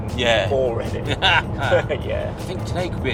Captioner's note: laughing